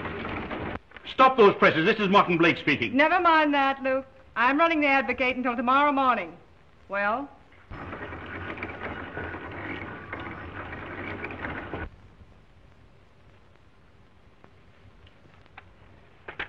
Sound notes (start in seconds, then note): 0.0 printing press whirring; 9.2 printing press whirring